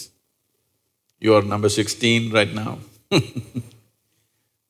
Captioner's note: laughs